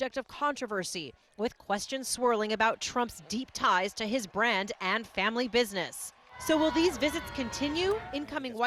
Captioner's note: cheers